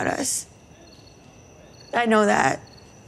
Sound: crickets chirping

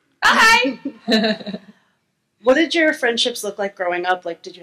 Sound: laughs

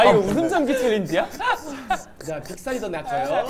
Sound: sob sob sob

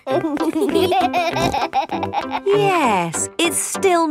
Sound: laughing

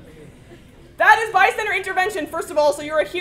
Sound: laugh

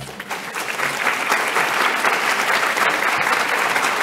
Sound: applause

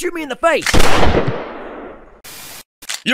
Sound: mug gun sound; GUNSHOT! Oh yeah one shot!

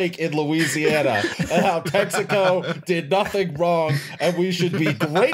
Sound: laughter

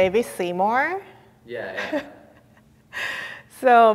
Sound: chuckles

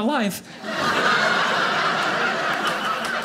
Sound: audience laughing

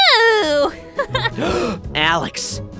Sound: gasp

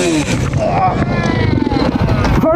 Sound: grunting

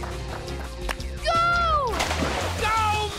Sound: water splashes

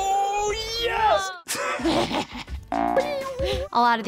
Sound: laughs

